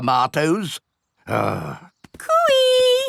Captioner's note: grumbles